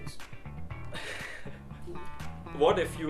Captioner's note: laughing